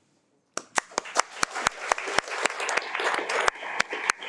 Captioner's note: audience applauding